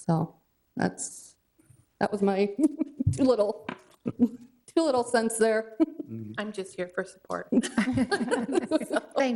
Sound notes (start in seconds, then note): 4.0 chuckles; 7.6 both chuckling